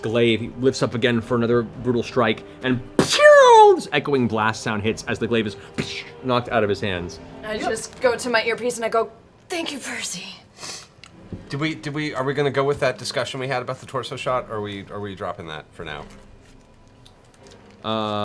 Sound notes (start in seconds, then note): 3.0 shooting sound